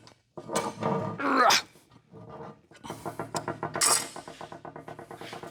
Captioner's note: grunting